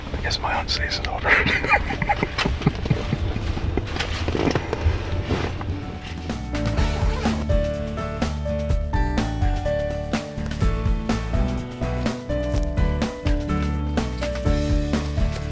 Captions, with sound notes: I GUESS MY HUNT SEASON'S OVER. (LAUGHS) [INSTRUMENTAL MUSIC]